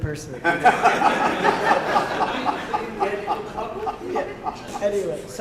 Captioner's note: laughter